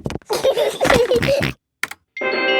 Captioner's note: george giggles and snorts; video game music plays